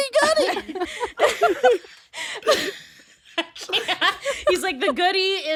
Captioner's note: laughing